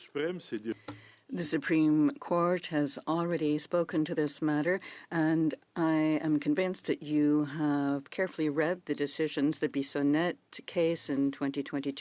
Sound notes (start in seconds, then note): 2.4 speaking in French